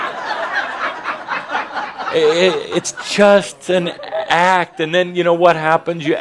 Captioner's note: laughter